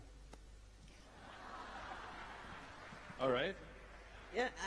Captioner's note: laughter